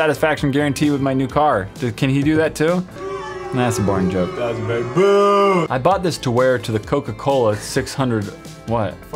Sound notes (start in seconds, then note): 3.0 sound effect booing